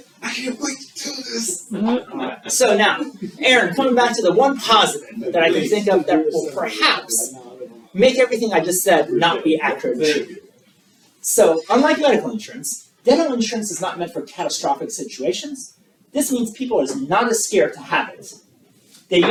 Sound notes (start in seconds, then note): 0.0 guests laughing; 2.9 guests laughing; 10.2 people chattering